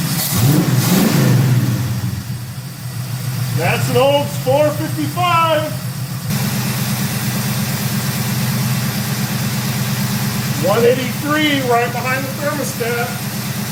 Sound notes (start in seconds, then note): 0.2 engine revs; 6.1 engine idling; 13.5 engine idles & shuts off